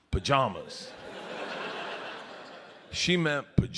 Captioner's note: audience laughs